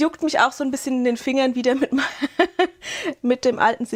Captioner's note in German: Gelächter